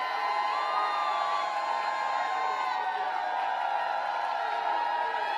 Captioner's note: applause